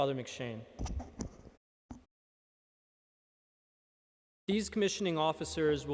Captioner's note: microphone static